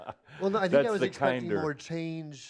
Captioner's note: chuckles